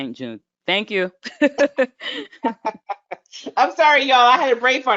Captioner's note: chuckling